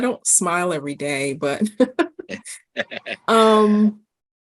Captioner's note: laughing